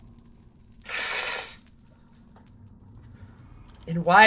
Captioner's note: snorts